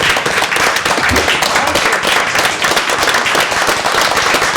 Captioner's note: applause